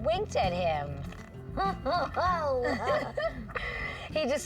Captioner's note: laughing